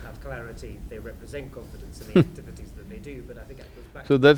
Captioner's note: Sadhguru laughs